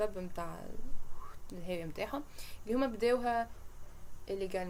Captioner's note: makes fall sound